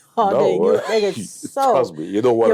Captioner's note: laughs